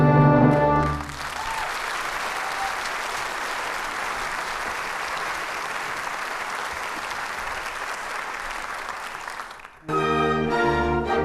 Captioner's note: applause